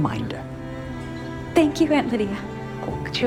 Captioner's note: voiceover